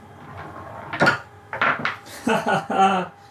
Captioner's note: marbles click